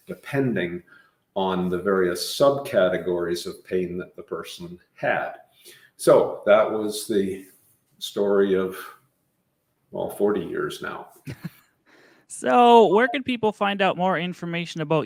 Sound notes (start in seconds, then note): 11.2 laughing